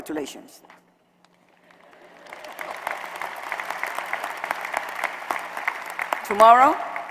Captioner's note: applause